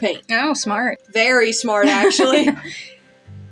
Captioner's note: laugh